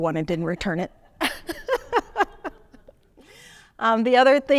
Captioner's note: laughing